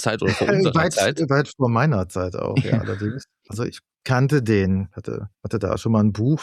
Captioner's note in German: gelächter